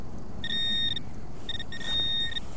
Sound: beep

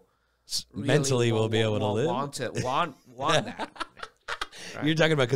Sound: laughs

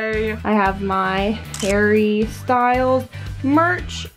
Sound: camera snaps

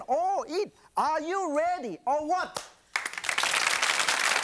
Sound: claps hand; audience applauds

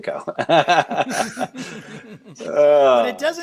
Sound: laughing

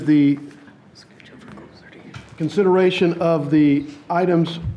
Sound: person whispering quietly

